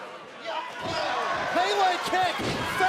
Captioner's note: crowd cheering